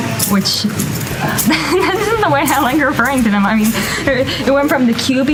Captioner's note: laughs